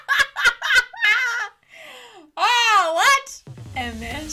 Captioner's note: laughs in disbelief